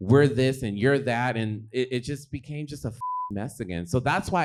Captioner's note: beep